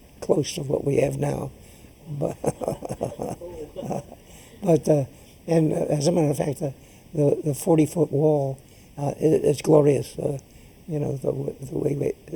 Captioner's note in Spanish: laughs